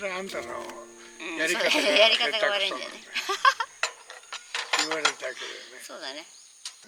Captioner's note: laughs